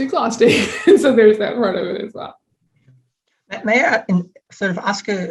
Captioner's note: chuckling